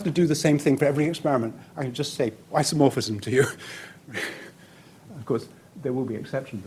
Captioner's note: chuckles